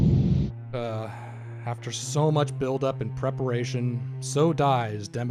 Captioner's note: sighs